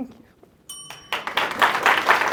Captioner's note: bell Dings; applause